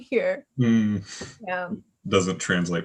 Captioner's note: chuckles